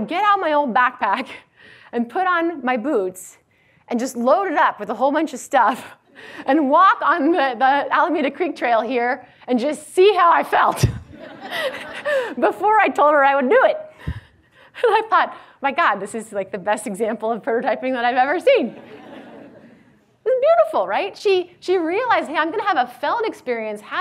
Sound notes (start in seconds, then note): 11.1 laughs; 18.7 audience laughs